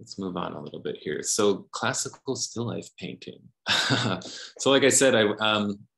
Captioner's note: chuckles